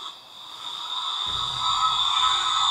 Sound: rattle

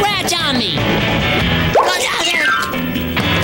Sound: grumbling

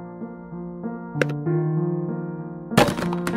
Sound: sound of garbage can opening; trash being dropped in

